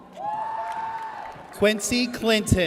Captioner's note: audience cheers